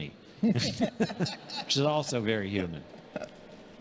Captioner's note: congregation laughing